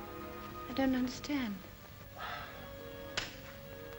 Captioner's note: sighs; soft music